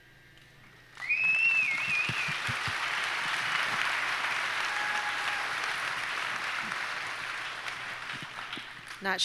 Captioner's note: audience applauds & cheers